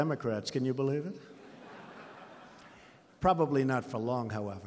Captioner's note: laughter